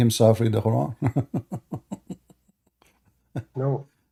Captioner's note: Ketawa